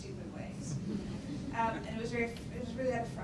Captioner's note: audience quietly laughs